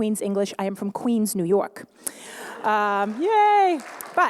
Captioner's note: laughter/applause